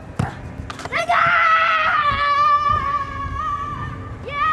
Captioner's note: screams excitedly